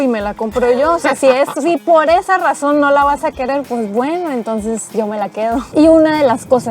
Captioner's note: laughter